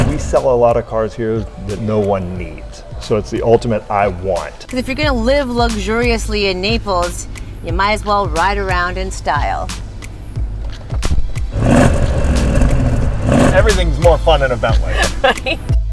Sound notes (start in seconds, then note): 11.9 car engine revving